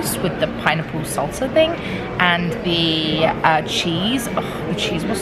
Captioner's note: none